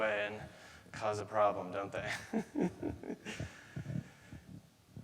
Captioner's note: chuckles